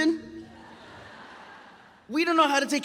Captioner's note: audience applauds